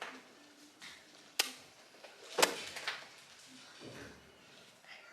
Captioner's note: smacks his mouth